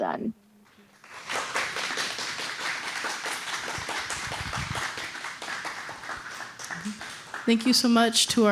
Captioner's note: applause